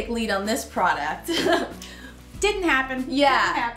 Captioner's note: laughing